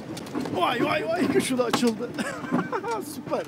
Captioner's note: laughing